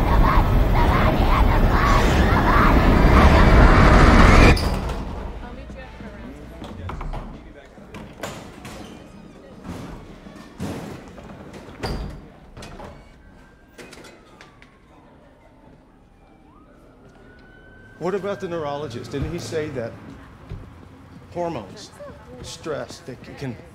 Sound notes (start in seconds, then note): 4.1 quiet chatter; 12.9 siren wailing in distance